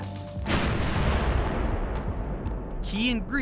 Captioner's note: explosion